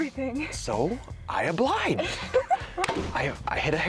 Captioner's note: laughs